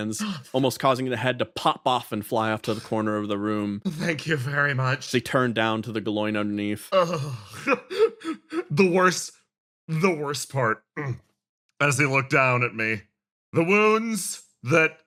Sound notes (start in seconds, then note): 6.6 Pained Yaiyo Noises